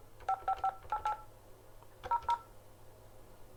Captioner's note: dialling